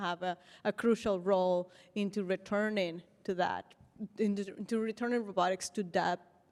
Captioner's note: none